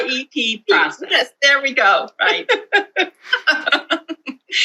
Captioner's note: laughter